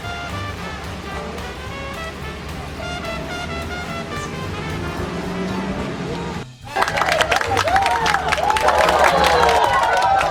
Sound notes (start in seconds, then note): 6.6 cheering; 6.6 clapping